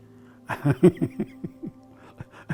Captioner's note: laughs